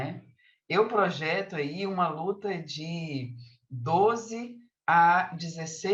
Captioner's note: continues speaking in Portuguese